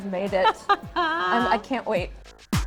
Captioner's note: laughs